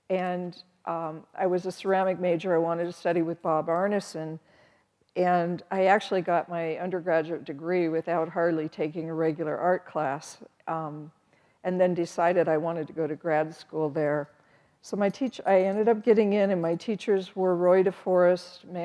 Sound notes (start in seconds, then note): none